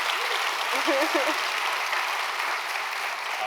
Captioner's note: applause